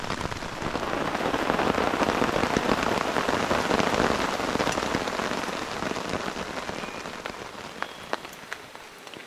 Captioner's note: rain